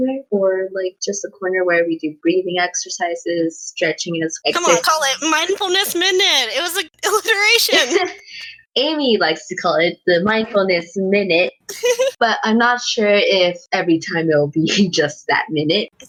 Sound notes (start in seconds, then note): 8.0 laughs; 11.7 giggle